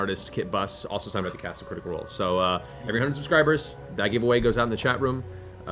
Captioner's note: none